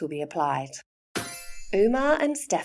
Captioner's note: chime sound